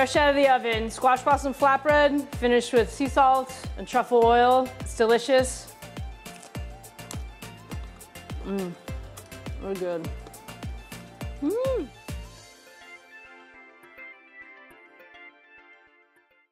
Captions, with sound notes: Fresh out of the oven, squash blossom flatbread, finished with sea salt and truffle oil. It's delicious (crunches) mmm... really good. Mmmm! (happy, upbeat music)